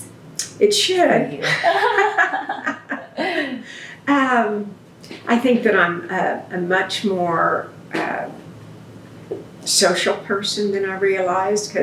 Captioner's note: laughter